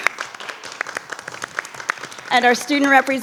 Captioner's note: everyone applauding